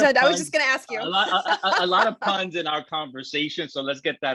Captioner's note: laughs